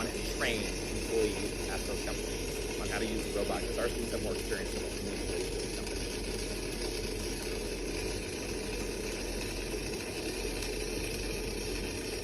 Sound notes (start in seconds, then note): 5.3 welding machine buzzing drowns out speaker